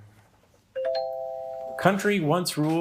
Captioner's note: bell ringing